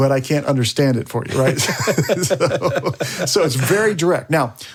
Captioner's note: all laugh